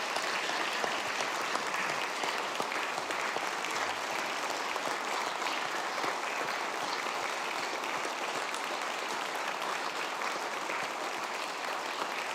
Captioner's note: applause